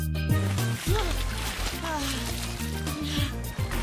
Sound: Ester exhaling deeply

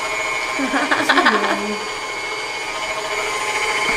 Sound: woman laughing

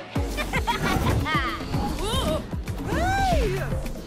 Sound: laughter

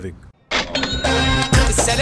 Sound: kachiiing!

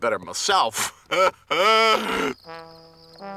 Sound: chuckles

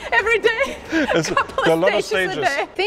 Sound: laughing

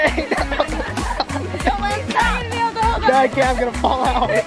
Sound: laughing

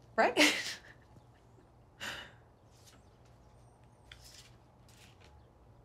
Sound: chuckles

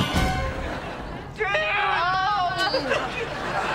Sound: groaning

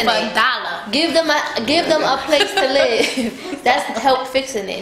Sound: laughing

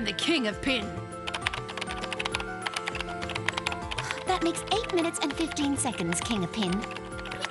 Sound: keyboard tapping

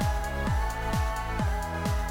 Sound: vocalizing

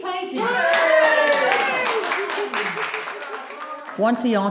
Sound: people cheering

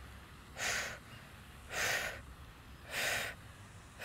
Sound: exhales rapidly

